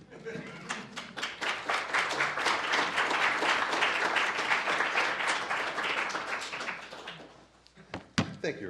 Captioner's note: applause